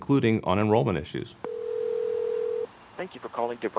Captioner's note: phone ringing out